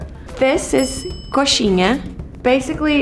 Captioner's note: bell dings